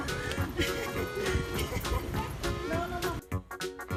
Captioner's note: laughter